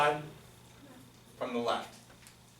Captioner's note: voiceover